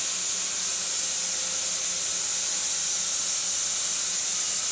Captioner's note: machine sawing